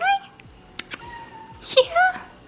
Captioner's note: cat meowing